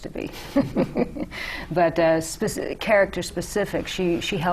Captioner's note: laughter